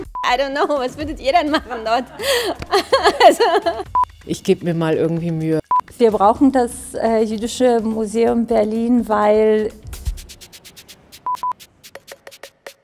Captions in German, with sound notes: *lacht laut* I don't know! Was würdet ihr denn machen Leute?! Ich geb mir mal irgendwie Mühe *schmunzelt* Wir brauchen das Jüdische Museum Berlin, weil..